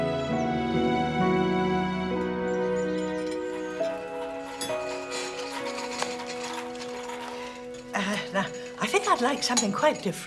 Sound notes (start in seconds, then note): 5.0 cart clattering